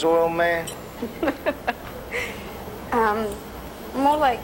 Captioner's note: laughing